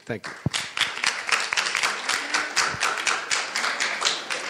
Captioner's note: audience applauding